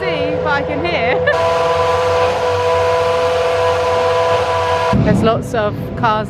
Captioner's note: engine revs loudly